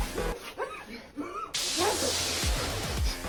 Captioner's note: electric shock